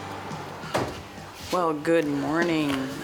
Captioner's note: door banging shut